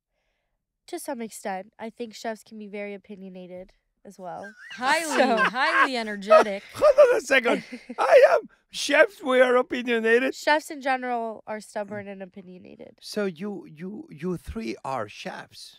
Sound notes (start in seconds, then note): 4.4 José laughing